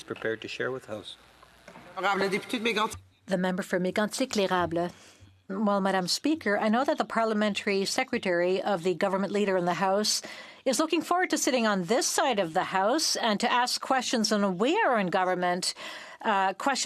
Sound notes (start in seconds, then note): 9.8 speaking in French